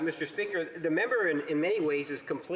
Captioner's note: speaking French